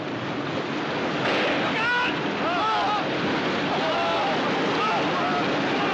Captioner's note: Gritando, gritando